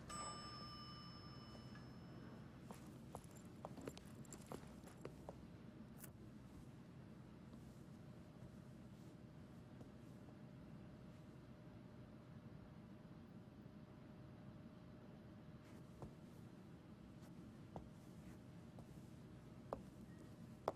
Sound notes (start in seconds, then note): 0.0 elevator dings; 3.6 footsteps pounding